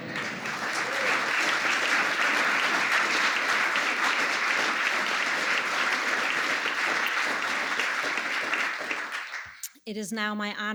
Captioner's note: applause